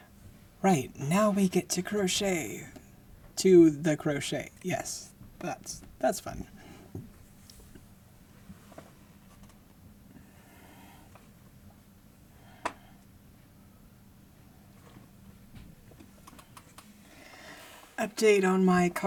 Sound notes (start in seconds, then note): 8.9 chair creaking, movement